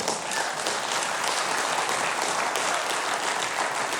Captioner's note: audience clapping